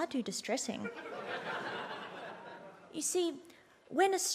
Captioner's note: audience laughs